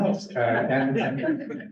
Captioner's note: laughter